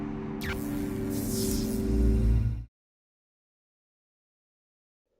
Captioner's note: electricity crackling